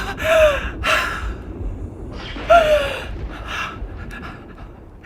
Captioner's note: Madame gasping